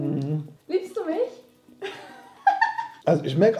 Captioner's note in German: lacht